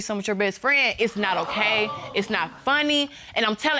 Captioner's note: audience exclaims